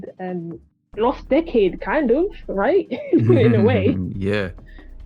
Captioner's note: snickers; laughs nervously